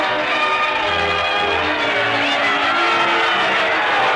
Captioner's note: crowd cheering